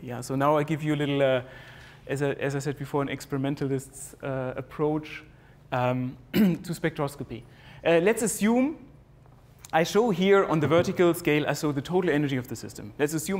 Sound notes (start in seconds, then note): 6.3 cough